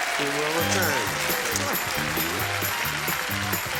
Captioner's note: applause